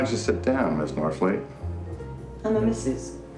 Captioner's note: door creaking; mellow jazz music